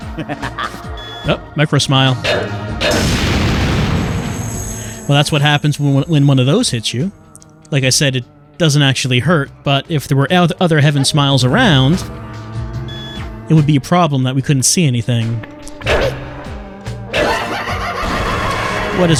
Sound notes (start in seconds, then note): 0.0 higher-pitched laughter, angelic humming; 2.8 ringing explosion; 17.2 crazed laughter, blood explosion